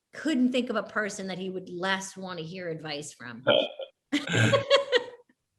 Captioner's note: laughs